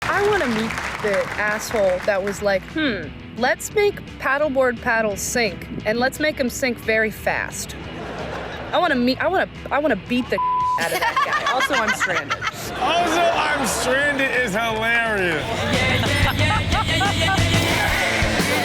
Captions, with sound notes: - I want to meet the asshole that was like, hmm, let's make paddleboard paddles sink and let's make them sink very fast. I wanna beat the (beep) out of that guy. (laughs) Also I'm stranded. - Also I'm stranded is hilarious. (upbeat music)